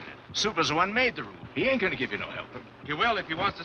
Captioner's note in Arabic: none